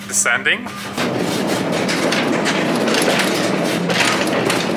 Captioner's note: train rattling